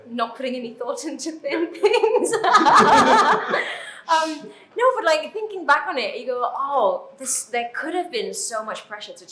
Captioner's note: both laugh